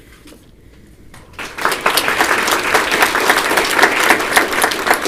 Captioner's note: applause